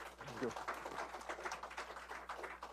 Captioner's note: applause